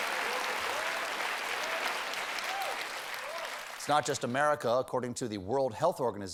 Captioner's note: applause